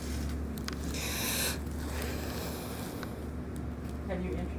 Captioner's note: inhaling sharply